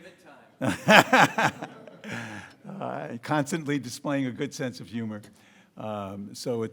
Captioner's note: laughs